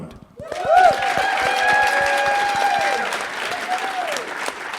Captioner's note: audience applauding